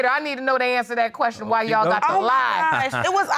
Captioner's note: laughs